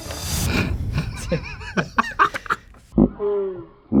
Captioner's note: laughing; laughing in slow motion